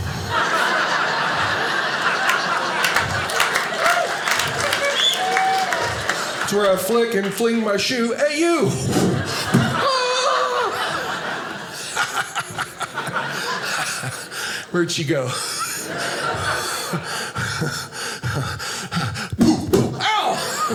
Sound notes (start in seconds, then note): 0.3 audience laughing; 3.3 audience applauding; 8.7 kicking; 11.9 laughing